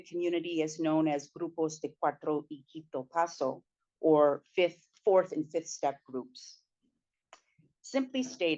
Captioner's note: speaking spanish